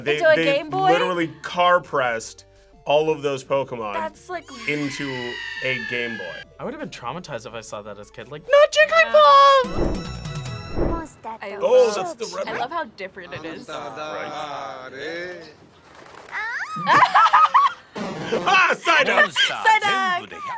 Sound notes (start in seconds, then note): 9.5 upbeat music; 16.7 both laugh